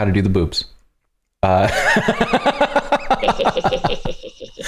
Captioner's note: laughter